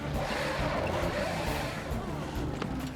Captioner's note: engine Revving